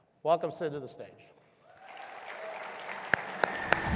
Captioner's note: audience cheering and applauding; techno upbeat music